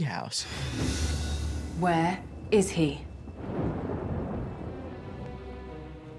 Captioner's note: thunder